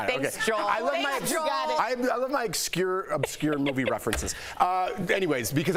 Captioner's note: laughter